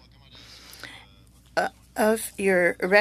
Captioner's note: speaking French